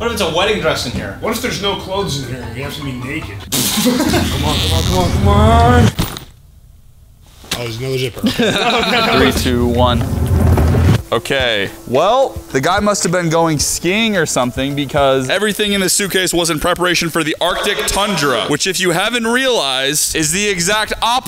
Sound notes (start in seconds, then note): 2.1 giggling